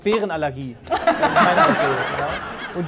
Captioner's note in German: Lachen